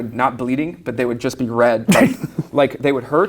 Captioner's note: laughs